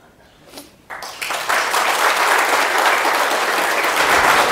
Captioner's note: audience applauding